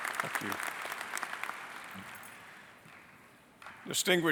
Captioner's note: applause